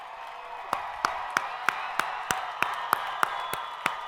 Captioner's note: crowd applauding